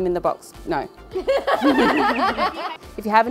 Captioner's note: laughs